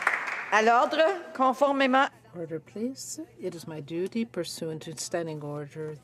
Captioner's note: some Applause